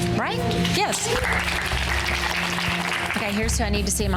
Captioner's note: girls applauding